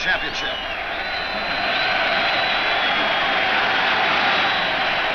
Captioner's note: crowd roars